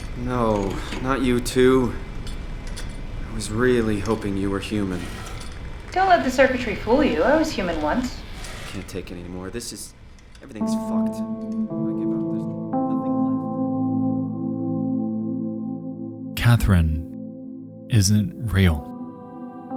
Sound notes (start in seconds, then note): 12.0 voice fading out; 13.1 ominous music